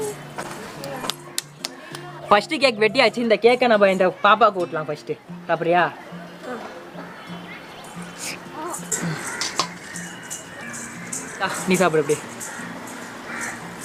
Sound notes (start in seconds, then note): 0.8 claps